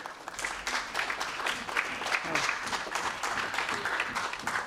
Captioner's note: applause